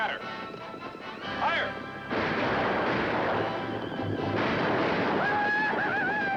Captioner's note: gunshots